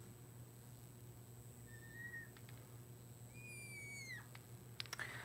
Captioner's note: marker squeaking